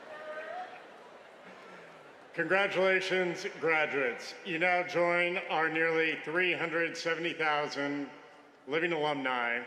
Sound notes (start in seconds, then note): 0.8 laughter